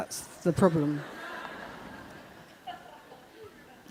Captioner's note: laughter